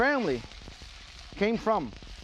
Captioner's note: shrimp sizzles